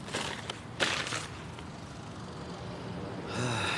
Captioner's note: crinkles bag, stands; exhales deeply